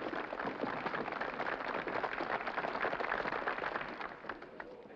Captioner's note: applause